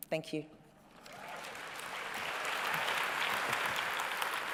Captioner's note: cheering and applause